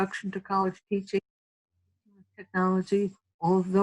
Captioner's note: audio cuts out